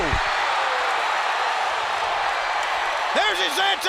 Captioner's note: audience cheers